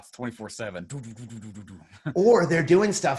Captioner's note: makes shooting noises